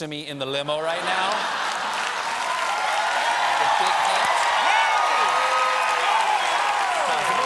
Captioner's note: cheers and applause